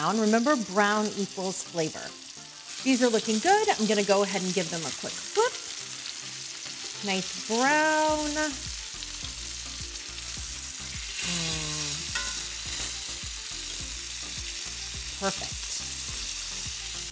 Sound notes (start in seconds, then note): 8.8 chicken sizzling; 8.8 soft music